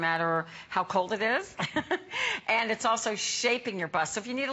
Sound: laughter

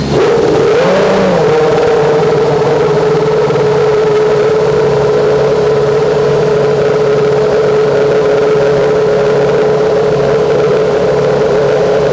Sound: F1 engine firing and revving

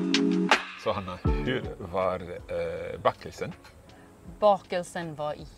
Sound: speaking Swedish

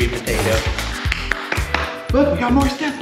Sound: clapping

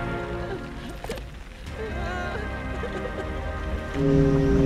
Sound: sobbing

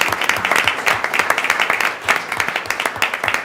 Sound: applause

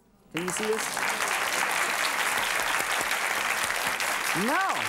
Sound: audience applauds

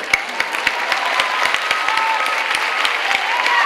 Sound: clapping

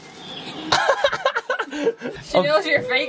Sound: laughs

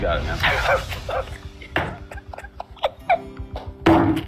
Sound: crying; bonk noise

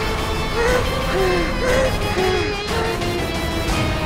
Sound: panting

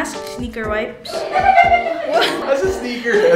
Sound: laughing

